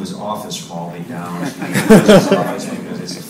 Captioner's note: audience laughs